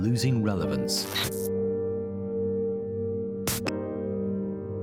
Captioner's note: static hisses